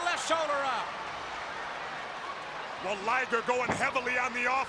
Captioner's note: crowd cheering